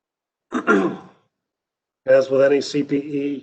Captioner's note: clears throat